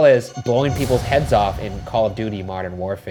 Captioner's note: explosion noise